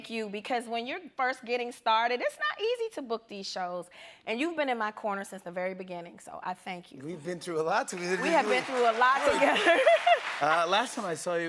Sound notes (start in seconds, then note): 9.1 laughs